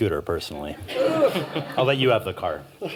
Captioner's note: laughter